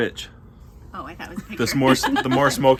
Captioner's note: group giggles